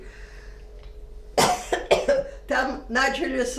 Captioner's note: coughing